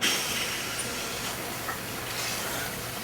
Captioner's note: water flows